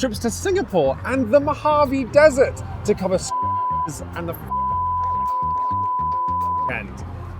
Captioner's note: beep